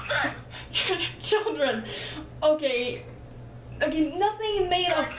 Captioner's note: laughs